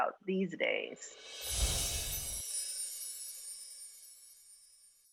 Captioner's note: chimes ringing